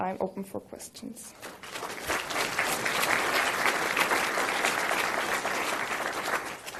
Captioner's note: applause